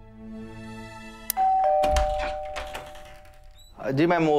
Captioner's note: Doorbell ringing